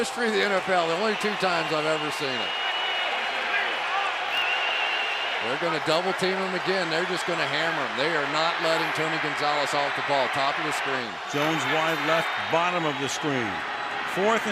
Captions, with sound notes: in the history of the NFL, the only two times I've ever seen it. [cheering] They're going to double team him again. They're just going to hammer him. They are not letting Tony Gonzalez off the ball top of the screen. Jones, wide left, bottom of the screen.